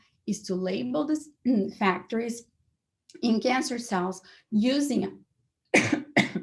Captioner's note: coughs